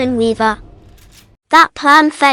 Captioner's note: gun loaded